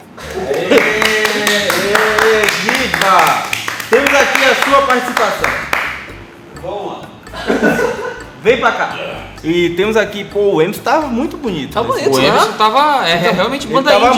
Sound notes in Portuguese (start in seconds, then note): 0.1 Risos e Palmas; 7.4 Risos